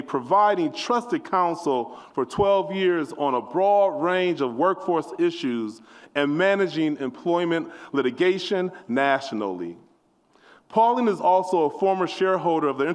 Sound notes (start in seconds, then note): none